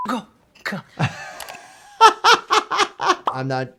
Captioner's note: laughs